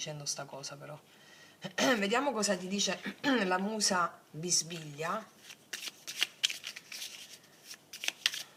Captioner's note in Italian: schiarire la voce